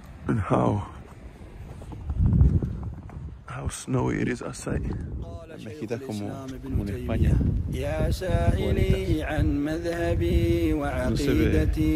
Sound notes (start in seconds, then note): 5.4 idioma extranjero 00:00:40; 11.0 idioma extranjero 00:00:40